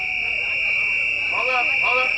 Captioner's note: cheers and applause